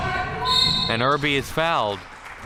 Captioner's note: whistle chirping